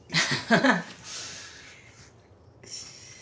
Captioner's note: both laugh